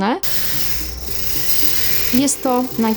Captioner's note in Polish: odgłosy wiercenia